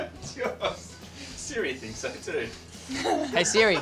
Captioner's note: laughs